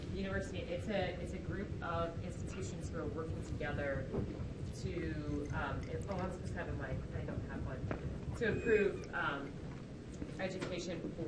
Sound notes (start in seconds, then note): 6.2 talks faintly